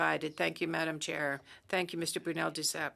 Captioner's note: speaking French